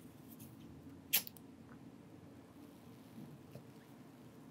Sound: lighter clicks

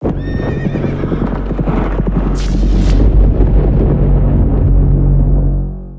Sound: horses galloping and neighing

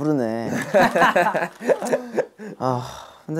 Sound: hahahaha

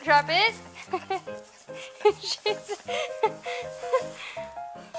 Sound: laughter

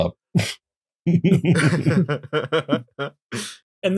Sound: laughter

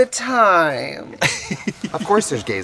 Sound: laughing

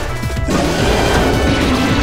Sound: more roaring

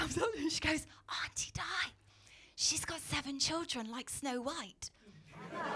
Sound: whispers; laughter

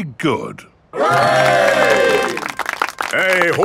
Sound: clapping

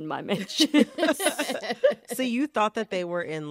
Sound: laughter

